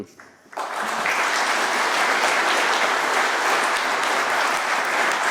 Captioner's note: applause